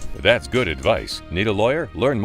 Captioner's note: voiceover